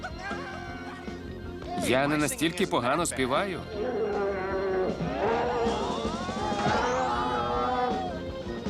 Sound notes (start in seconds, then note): 0.2 Garfield screaming; 3.7 bear growling; 5.0 screaming